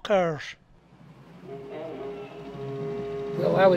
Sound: distant foghorn

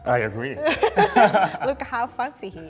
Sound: both laughing

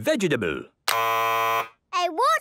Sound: buzzes

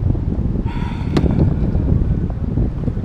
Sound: exhales the weight of the world

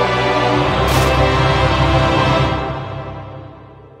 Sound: wood splinters

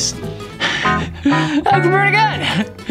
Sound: laughs

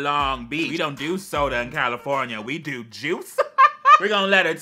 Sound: laughs

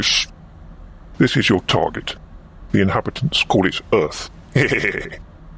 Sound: laughs

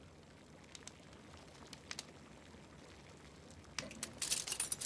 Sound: liquid burbling

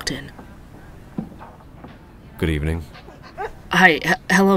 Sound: sound: dogs panting

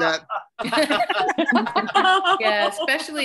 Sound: laughter

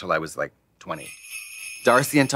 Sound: sleigh bells jingling

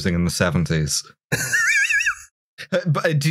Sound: laughter

